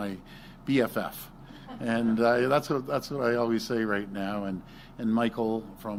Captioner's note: laughter